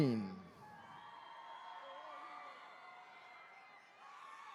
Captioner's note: attendees cheering